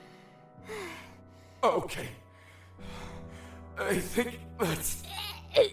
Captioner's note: heavy breathing